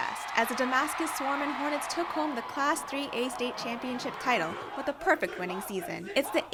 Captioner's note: chanting